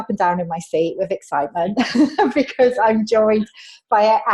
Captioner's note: laughs